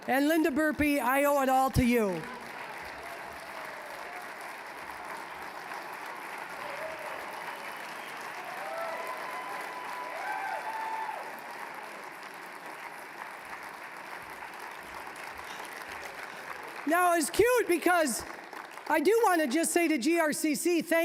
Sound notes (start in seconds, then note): 3.2 applause